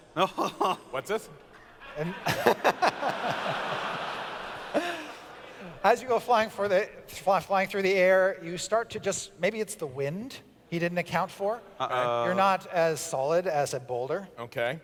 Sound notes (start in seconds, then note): 1.6 laughter